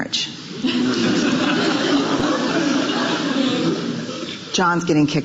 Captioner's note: audience laughing